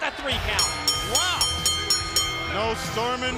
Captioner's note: bell ringing